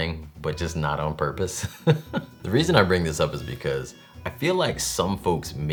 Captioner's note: laughs